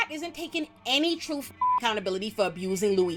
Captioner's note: beep